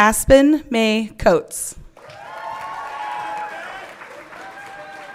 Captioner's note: everyone cheering